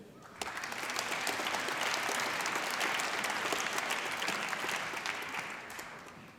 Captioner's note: applause